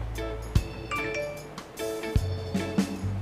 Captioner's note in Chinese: 訊息鈴聲